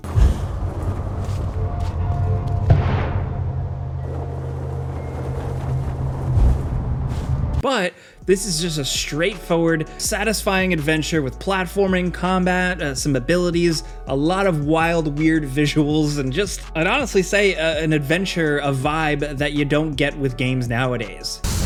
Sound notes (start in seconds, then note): 0.0 wind gushes; 4.1 fabric flutters; 21.5 weapon fires